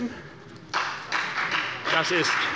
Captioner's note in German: Beifall bei der FDP